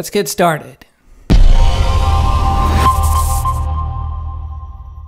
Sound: air whooshing

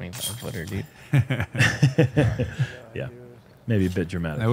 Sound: laughter

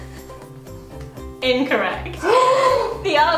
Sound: gasps

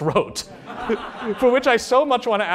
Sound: laughter

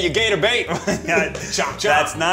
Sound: Zach laughs

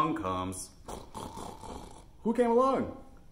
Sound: oink oink oink

